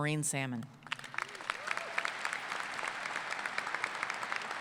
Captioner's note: applause